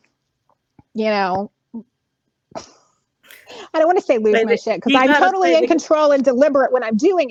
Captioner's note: laughing